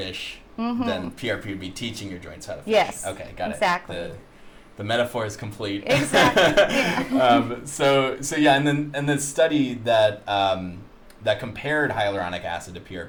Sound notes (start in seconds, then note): 6.0 laughs